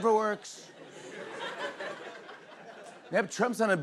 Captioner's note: laughter